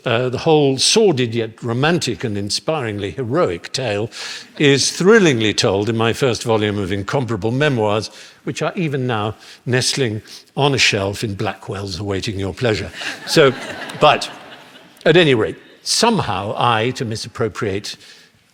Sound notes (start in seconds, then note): 12.9 laughter